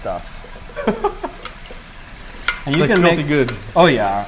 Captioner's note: laughs